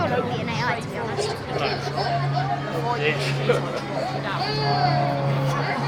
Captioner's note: baby cries coming from haunted pram